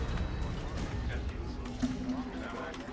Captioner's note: indistinct chatter